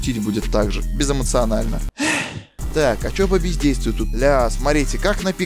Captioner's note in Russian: вздох